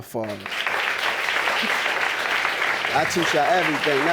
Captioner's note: audience applauding